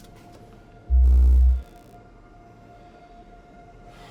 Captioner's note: magnet buzzing